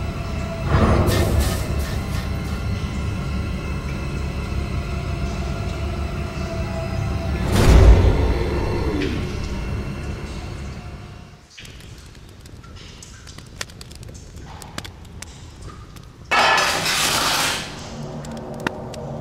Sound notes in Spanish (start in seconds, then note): 7.2 Golpe animatrónico; 11.5 Chisporroteos de fogata